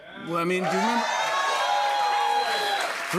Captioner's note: cheers and applause